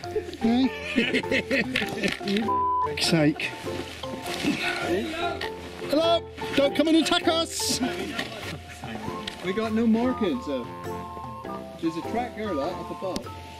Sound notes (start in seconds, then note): 0.0 laughs